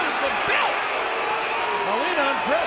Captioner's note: audience booing